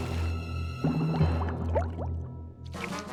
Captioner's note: bubbling